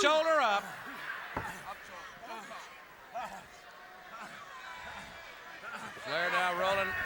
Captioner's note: crowd chatter